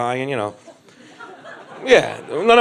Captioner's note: crowd laughs